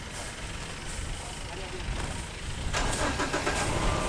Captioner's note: sound of engine and elephants grazing